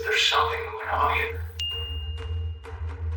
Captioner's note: pne chimes